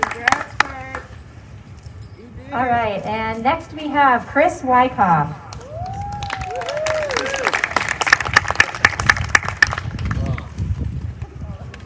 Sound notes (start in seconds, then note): 5.5 applause